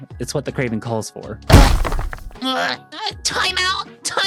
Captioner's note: groans